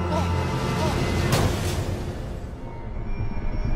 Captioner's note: thuds; eerie music